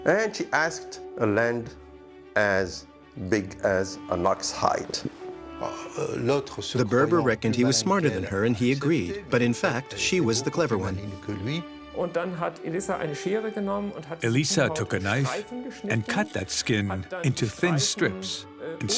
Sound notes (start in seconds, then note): 12.2 speaks in foreign language